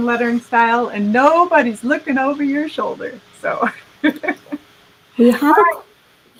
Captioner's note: laughing